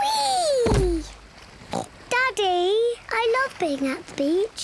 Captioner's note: oinks